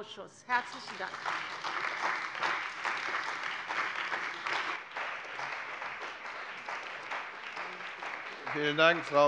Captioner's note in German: Beifall bei der CDU und dem BÜNDNIS 90/DIE GRÜNEN